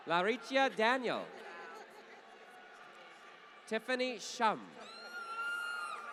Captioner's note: laughter